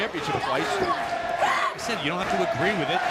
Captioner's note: fans chanting